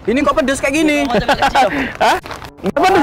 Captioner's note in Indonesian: ketawa